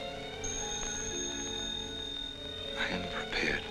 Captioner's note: phone ringing